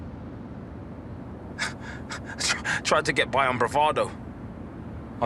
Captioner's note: he chuckles